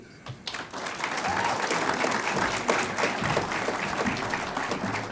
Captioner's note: audience applauds